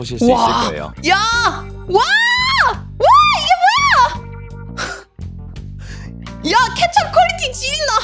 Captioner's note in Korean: 비명